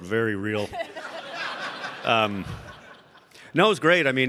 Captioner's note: audience laughing